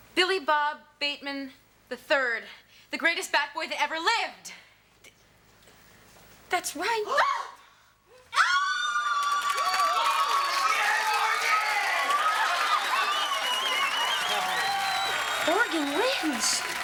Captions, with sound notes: - Billy Bob Bateman III, the greatest bat boy that ever lived. - That's right. (Ms. Attol and Morgan scream) (Audience cheers) - Yeah, Morgan! - Morgan wins.